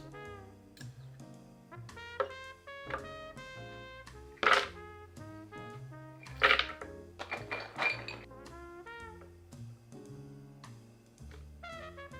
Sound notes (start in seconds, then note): 2.1 garlic dropping; 4.4 cashews dropping; 6.2 nuts dropping